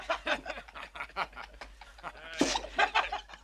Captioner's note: laughter